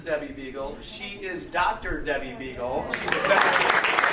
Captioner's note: audience applauding